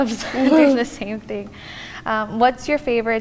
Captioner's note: laughs